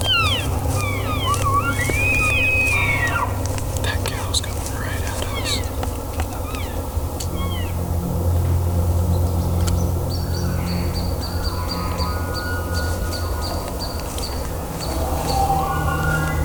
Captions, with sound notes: (Elk bugling) That cow’s coming right at us. (cows calling) (Caller cow calling) (Elk bugling) (Caller bugles)